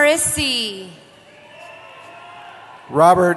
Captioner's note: cheering